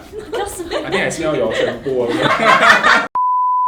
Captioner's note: laughs